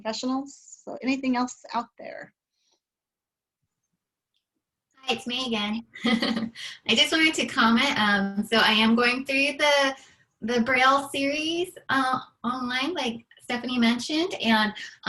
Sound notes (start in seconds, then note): 6.0 laughter